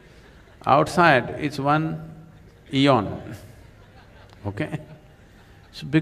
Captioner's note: laughter; 笑聲